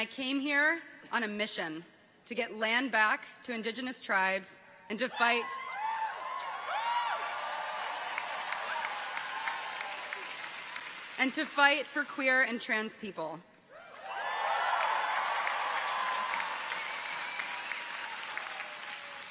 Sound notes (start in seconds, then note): 5.1 people cheer; 5.8 audience applauds; 13.7 people cheer; 13.9 audience applauds